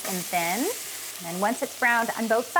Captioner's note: pan sizzling